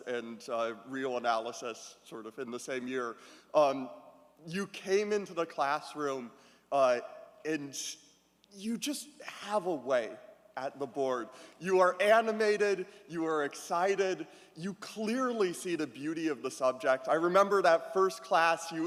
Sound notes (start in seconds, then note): none